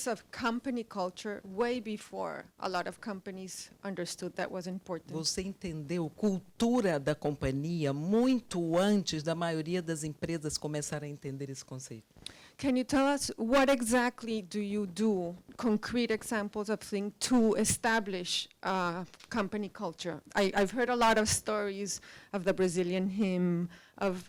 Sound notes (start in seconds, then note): 5.4 translator speaking Portuguese